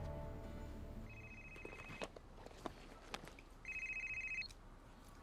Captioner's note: phone rings